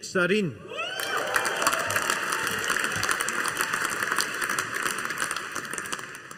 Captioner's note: audience applauding